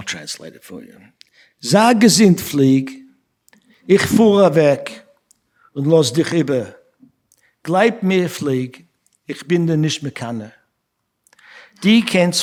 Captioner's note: speaking yiddish